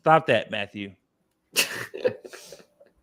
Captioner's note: laughs